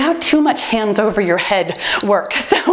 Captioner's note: timer beeps